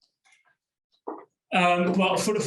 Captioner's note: clicks